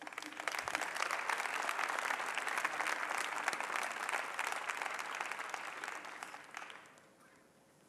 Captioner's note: applause